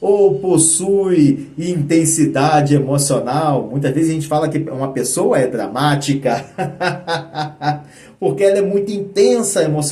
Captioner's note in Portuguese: risadas